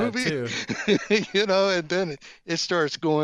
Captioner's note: laughs